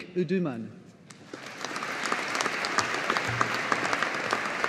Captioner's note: audience applauding